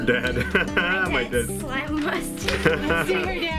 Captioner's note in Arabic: يضحك